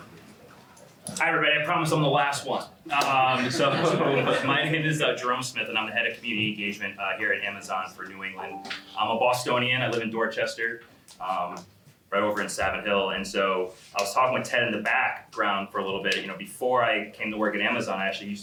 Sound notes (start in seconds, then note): 3.2 laughter